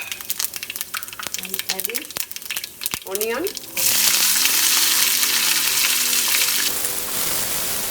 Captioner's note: oil sizzling